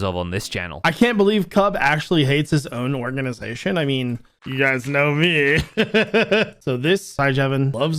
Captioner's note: laughs